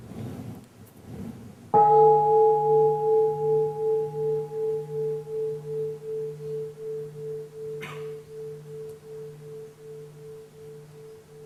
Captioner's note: bell